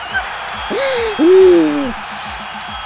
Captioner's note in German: Glockenschlags